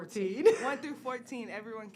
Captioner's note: laughs